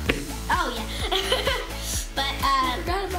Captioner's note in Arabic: يضحك